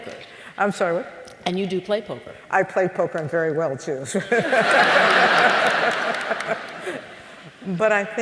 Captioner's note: laughter